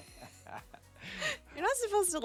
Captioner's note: laughing